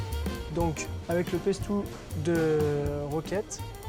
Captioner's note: speaks french